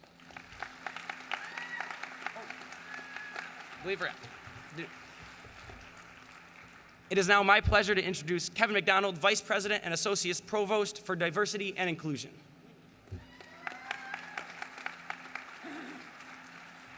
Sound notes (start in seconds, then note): 1.8 applause